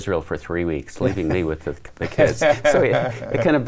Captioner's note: laughs